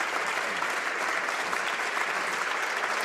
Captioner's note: applause